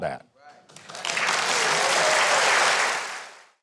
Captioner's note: audience claps and cheers